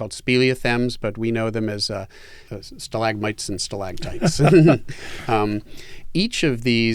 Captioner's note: laughs